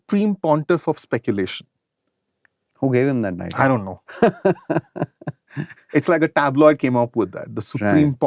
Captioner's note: laughter